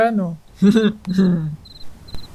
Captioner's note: giggle